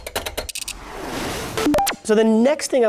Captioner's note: swooshes